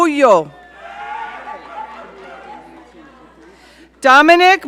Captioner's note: audience cheering